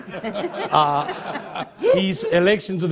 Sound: laughter

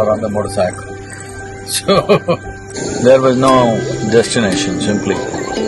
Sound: laughs

